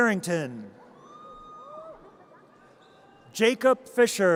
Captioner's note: audience cheers